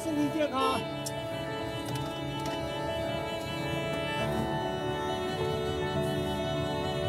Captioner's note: gentle dramatic music; car horn beeps